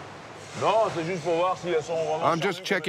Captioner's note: speaking in foreign language